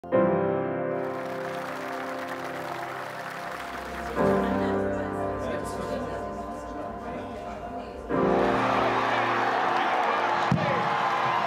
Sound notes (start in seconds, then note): 0.9 music playing and applause; 3.9 chatters; 8.1 music playing and applause